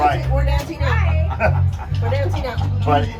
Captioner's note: laughing